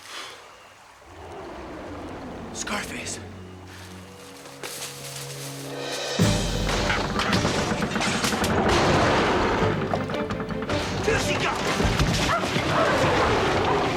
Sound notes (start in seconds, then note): 0.0 leaves rustle; 0.2 Scarface growling in distance; 4.0 dramatic music; 6.6 treehouse rumbles; 11.8 treehouse shudders